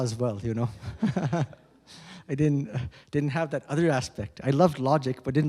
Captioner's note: chuckles